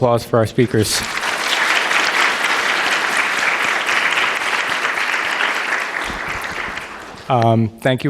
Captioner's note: applause